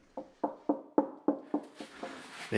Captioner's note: firmer tapping